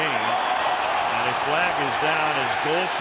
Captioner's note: cheering